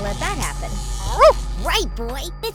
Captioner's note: dog bark